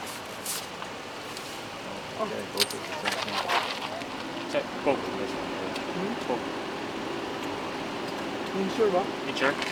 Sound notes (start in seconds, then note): 1.0 crew chattering; 1.0 loud clatters